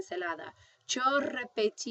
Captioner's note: speaking spanish